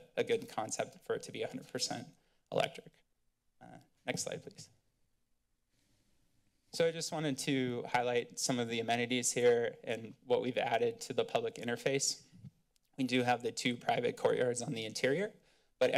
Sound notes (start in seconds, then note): none